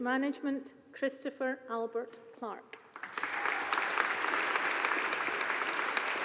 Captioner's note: audience applauding